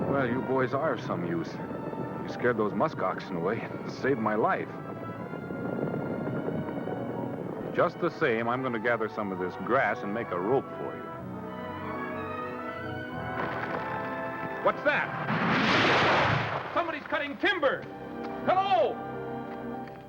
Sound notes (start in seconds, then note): 12.8 creaking; 14.9 crashes